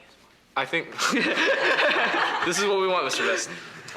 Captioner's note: laughs loudly